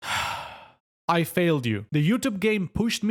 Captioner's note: exhales